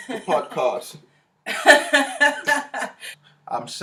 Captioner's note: both Laugh